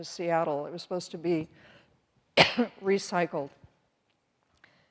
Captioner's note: coughs